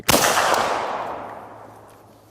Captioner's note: gunshot